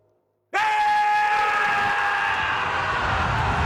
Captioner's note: yelling